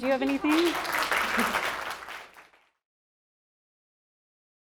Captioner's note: audience applauding